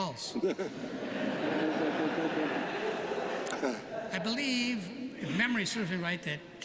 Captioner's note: laughter